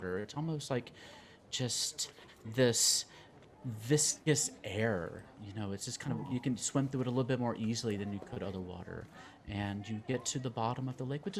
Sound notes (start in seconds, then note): none